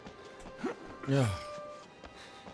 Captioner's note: sigh